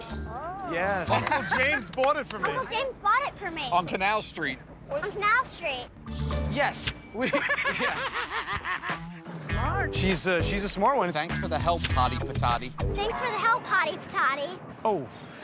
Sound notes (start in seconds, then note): 7.2 laughter